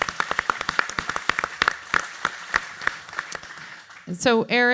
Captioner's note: audience applauds